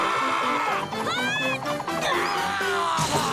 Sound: screaming; grunting

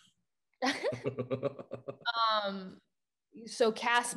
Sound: Raffy and Zendaya laugh

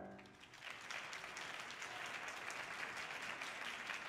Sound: audience applauding

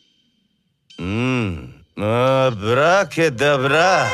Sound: gibberish chanting

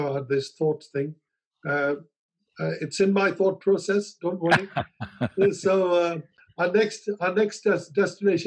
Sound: Sadhguru laughs

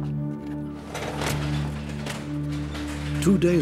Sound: garage door clanking open

